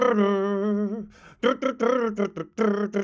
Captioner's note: humming